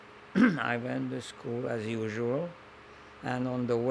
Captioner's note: clears throat